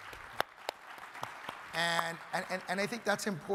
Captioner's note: crowd applauding